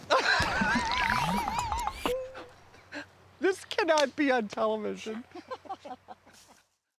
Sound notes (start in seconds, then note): 0.1 laughing cheerfully; 5.3 both laugh cheerfully